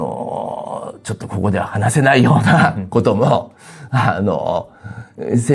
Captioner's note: laughs